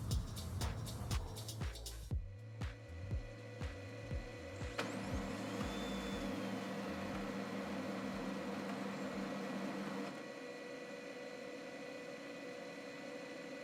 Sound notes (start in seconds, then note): 4.7 machine whirring